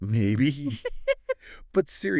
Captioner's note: laughing